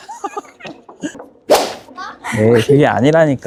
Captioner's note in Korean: 휘릭~